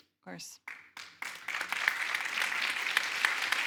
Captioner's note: audience applauding